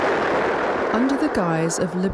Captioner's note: voiceover